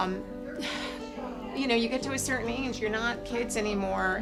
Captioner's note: sighing